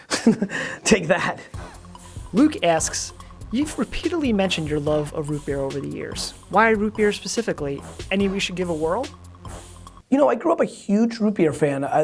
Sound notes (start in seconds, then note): 0.1 laughs; 2.5 voiceover